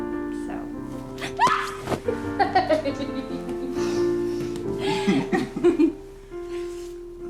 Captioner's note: Maddie screams; both laughing; gentle music